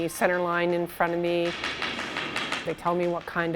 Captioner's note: broom tapping on ice